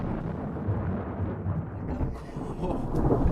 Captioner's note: thunder